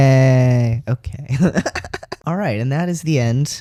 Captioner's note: laugh